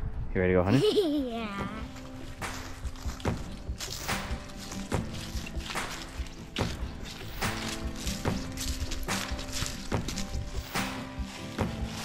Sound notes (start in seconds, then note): 0.6 giggling; 3.9 leaves crunching; 3.9 upbeat music